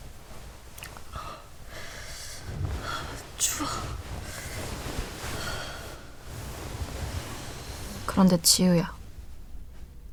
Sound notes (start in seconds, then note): 1.1 Youngwon's cold breathing